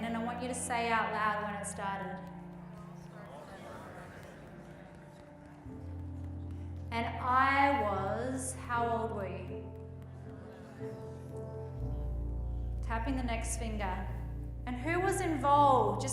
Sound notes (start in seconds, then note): 2.7 group murmuring